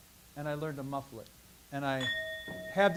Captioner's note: bell ringing